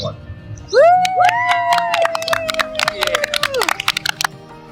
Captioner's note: cheering and applause